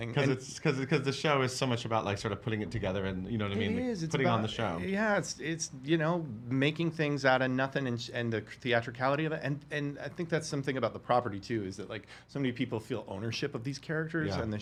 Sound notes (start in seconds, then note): none